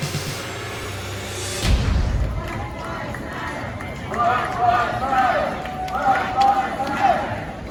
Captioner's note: crowd chanting